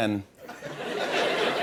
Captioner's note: laughter